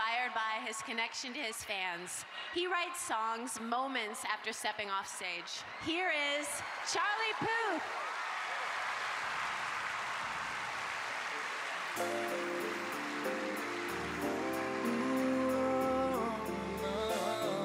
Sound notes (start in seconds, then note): 10.4 cheers and applause